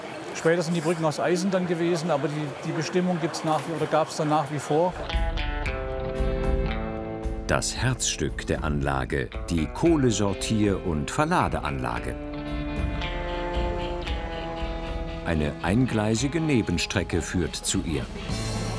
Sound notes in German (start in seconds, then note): 5.1 Entspannte Musik; 13.0 Regelmäßiges Schnaufen